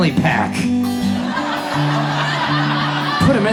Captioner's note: audience laughs